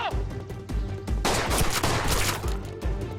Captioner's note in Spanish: Disparos